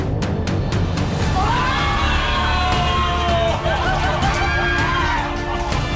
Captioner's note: screaming